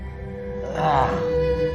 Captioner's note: somber music playing; grunts